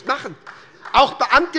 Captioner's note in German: Beifall des Abg